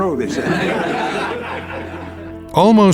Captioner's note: laughter